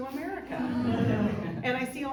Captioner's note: crowd laughs